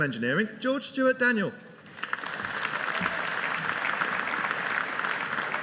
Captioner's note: audience applauding